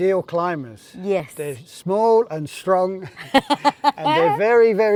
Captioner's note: both chuckle